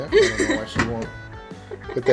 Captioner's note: laughs